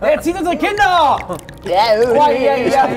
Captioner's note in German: Ekelgeräusche